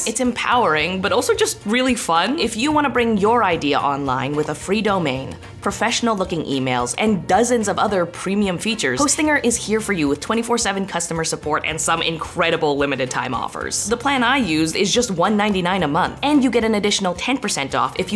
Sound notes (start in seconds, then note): none